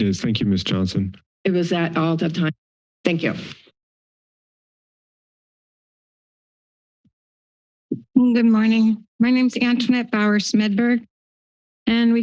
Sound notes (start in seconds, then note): 3.9 silence